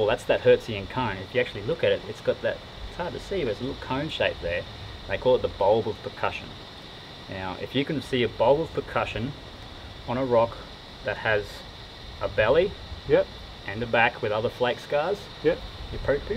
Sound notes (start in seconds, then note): none